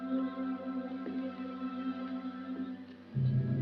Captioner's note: footsteps